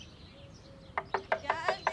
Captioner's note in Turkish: Kapı vurma sesi